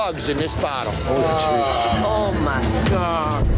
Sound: groaning

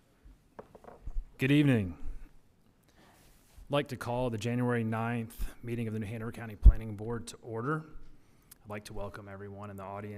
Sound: gavel

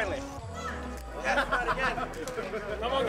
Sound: laughter

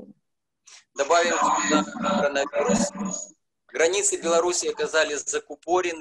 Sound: speaking foreign language

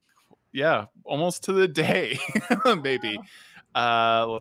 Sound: laughs

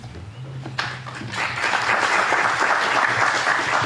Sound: audience applauds

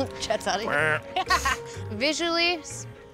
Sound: makes boat engine sound effect

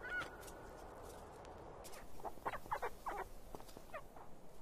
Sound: hyrax squeaks

